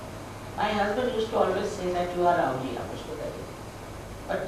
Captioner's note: hindi